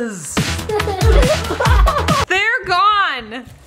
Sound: electronic dance music; laughing

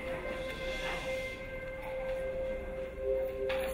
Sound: calm music; crowd shushing

